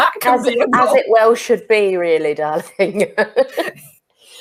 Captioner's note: laughs